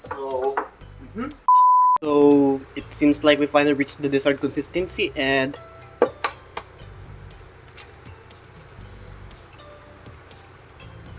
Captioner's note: cracks egg